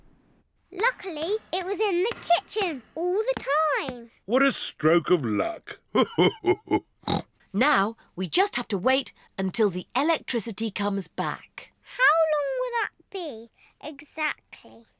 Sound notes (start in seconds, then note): 5.1 laughs; 7.0 snorts